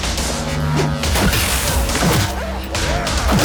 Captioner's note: grunting